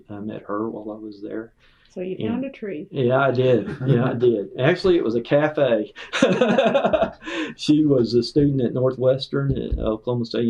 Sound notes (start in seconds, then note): 6.0 laughter